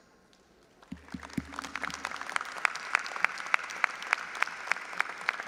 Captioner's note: audience applauding